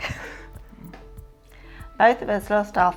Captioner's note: chuckling